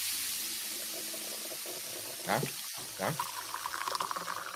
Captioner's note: coffee pouring